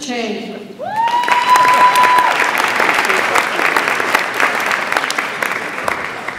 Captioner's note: audience applauds and cheers